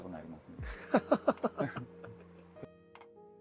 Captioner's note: laugh